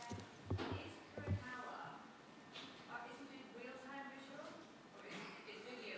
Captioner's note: participant faintly speaking